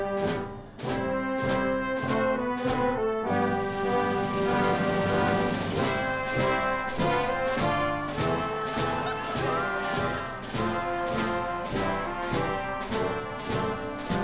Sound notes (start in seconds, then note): 8.5 cheering